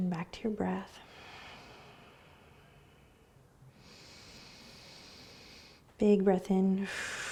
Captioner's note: breathing; exhaling